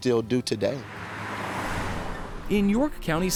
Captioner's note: car rumbles